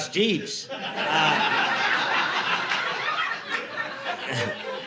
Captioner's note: audience laughing